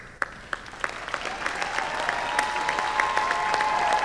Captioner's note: applause